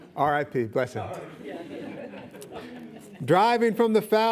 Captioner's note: audience laughing